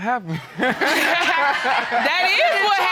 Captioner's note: all laughing